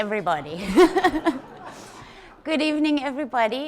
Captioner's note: everyone chuckles